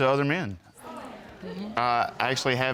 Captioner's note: audience murmuring